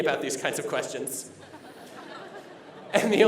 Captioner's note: laughter